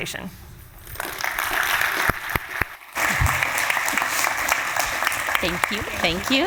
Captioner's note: applause